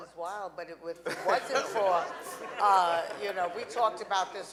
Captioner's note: audience laughing